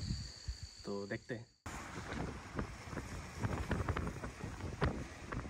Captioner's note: vehicle moving